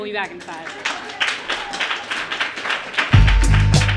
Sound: applause from audience

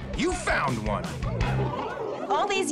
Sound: Putties murmuring

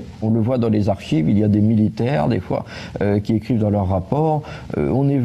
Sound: speaks in a foreign language

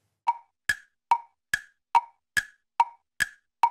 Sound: clock ticking

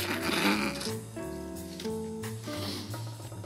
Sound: slurping

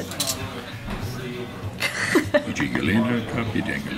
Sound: laughing

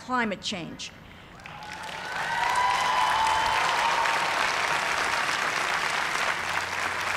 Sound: cheers and applause

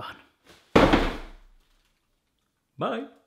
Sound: clattering

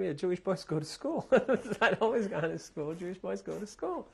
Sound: laughs

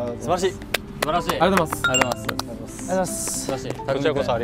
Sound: clap / Clap

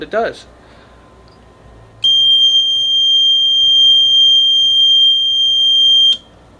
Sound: steady, high-pitched beep

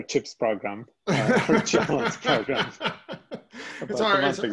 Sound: laughs

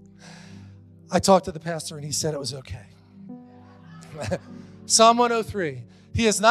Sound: congregation laughing

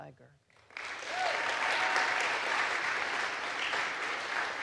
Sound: audience applauds

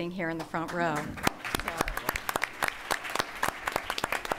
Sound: applause

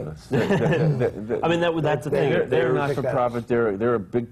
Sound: laughs

